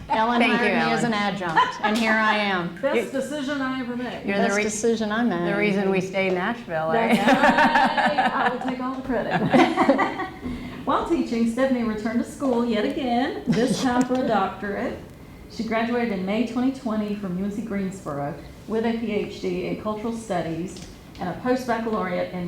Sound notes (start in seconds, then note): 7.0 laughs; 10.2 laughs